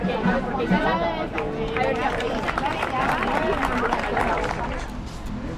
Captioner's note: clap